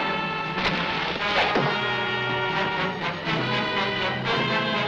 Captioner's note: arrow whooshing